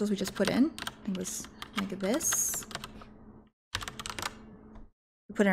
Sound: keyboard clicking

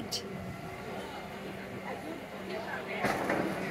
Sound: hydraulics

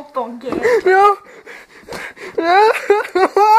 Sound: intense breathing; gasp

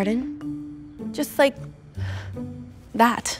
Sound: exhales deeply

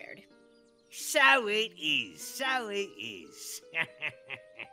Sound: laughs

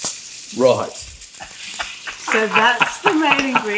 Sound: laughs

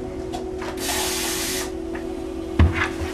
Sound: faucet running

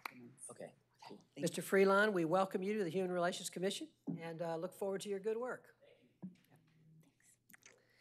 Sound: applause

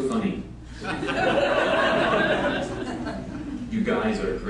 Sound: laughter

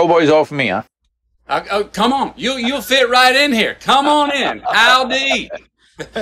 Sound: Sadhguru laughs

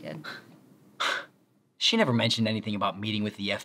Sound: scoffs

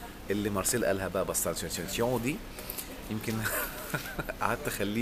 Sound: laughs!

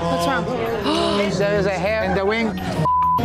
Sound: gasps

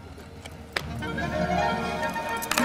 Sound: hands clasping

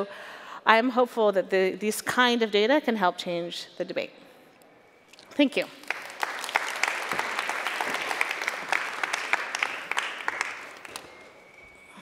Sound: applause

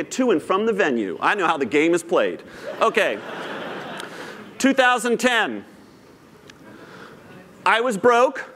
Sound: laughter

